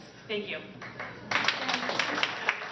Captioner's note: applause